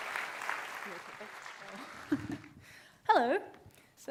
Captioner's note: laughs